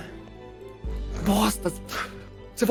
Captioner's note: whispering